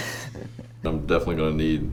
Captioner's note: laughs